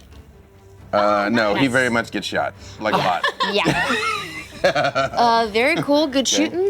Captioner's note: laughs